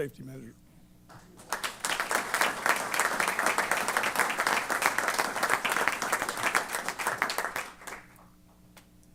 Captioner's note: applause